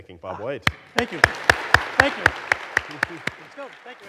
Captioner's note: audience applauding